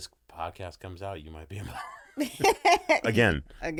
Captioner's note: laughing